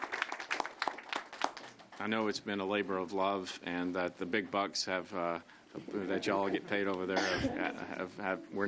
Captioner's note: applause